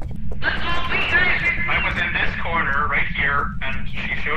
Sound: over Radio

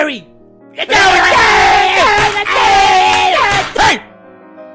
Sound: angry noises

